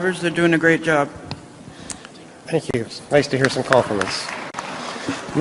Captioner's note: applause